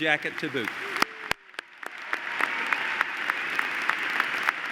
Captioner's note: applause